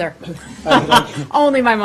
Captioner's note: laughter